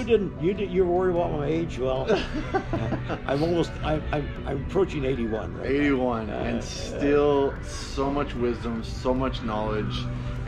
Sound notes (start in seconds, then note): 2.0 laughter